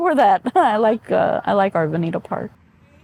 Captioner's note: laughs